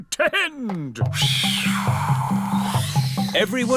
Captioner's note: blows air